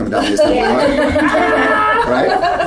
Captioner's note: laughter